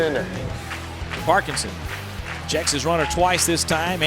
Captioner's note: voiceover